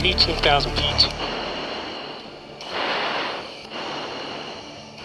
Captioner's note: radio swooshing